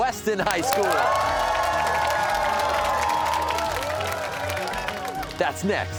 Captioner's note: cheers and applause